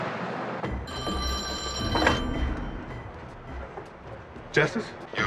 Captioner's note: telephone ringing